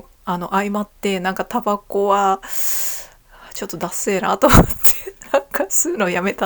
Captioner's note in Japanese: 笑い